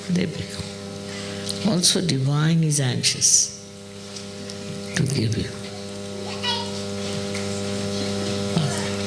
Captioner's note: applause